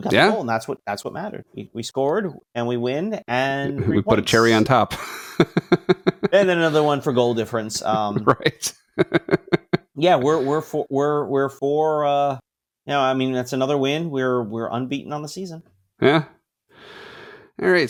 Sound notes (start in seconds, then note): 5.3 laughs